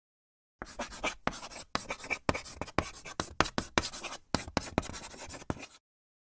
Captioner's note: chalk writing on a chalkboard